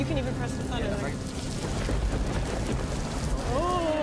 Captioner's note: thunder crashes